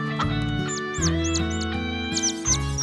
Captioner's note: clucking; chirping